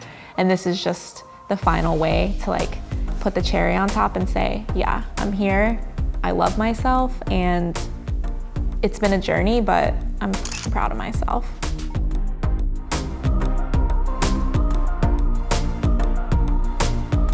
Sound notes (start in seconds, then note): 10.4 shutter clicks; 11.9 gentle music